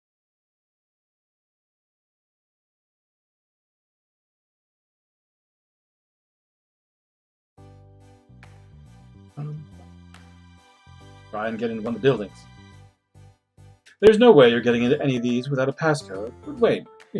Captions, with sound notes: [hums] "Try and get into one of the buildings." "There's no way you're getting into any of these "without a passcode, but wait!